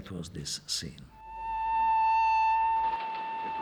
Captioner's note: train engine horn blowing